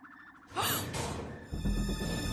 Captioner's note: gasps